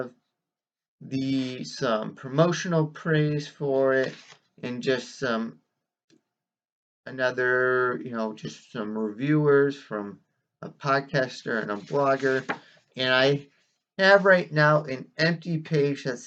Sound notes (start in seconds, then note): 4.0 whisk of page turning; 11.6 rustling of pages